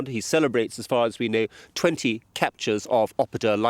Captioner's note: none